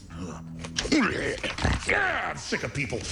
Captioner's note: growling